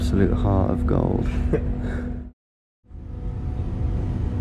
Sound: laughing

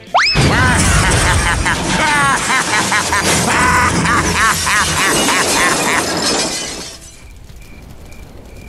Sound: destruction noises, Wario laughs

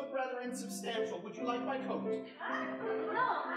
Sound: audience laughing

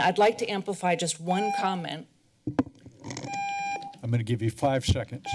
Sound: timer rings

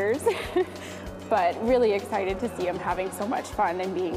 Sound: laughs

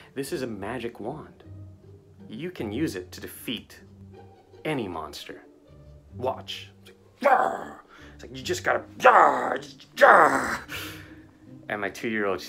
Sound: grunts

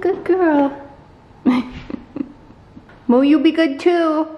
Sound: chuckles

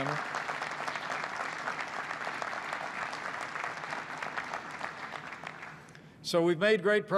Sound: applause

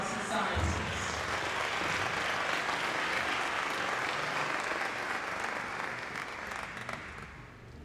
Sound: applause

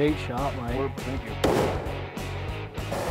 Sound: gunshot

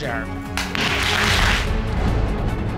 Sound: audience applauding

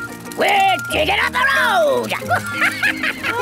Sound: chuckles

